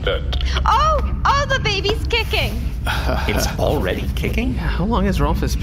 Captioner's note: excited